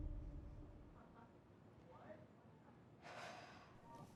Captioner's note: downstairs chatter